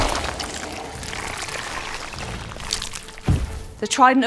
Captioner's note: hermit makes shuddering noise